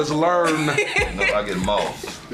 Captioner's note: laugh